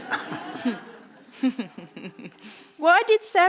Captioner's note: audience laughing